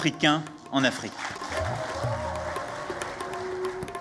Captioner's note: applause